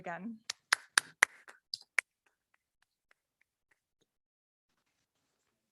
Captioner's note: clapping